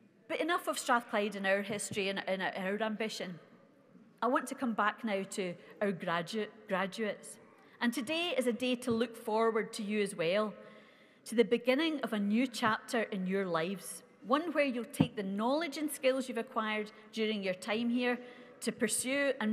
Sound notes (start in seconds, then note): none